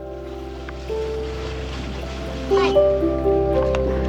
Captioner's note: waves crashing